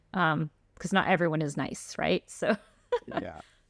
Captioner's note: laughter